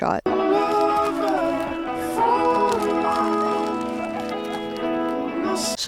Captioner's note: logo crackles